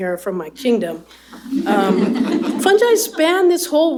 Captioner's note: laughter